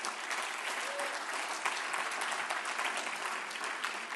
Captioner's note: applause